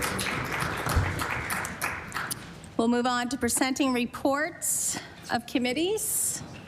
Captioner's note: applause